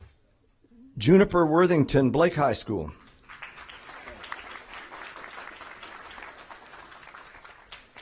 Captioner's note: applause